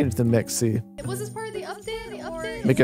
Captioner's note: echoing